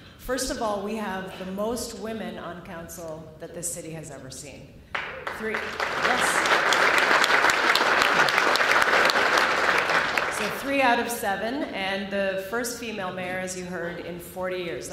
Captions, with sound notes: First of all we have the most women on council that the city has ever seen. 3—. [Applause] 3 out of 7. And the first female mayor, as you heard, in 40 years.